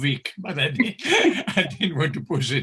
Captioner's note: laughs